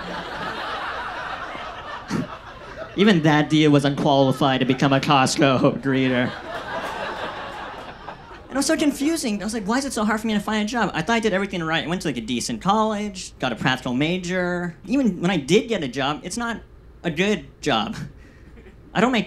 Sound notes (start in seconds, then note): 0.2 audience laughs; 6.8 audience laughs